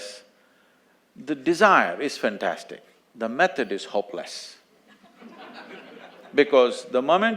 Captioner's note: laughter